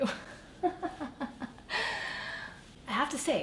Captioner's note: laughs